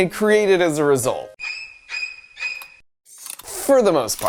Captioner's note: horror sound effect